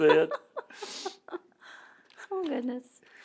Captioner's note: laughter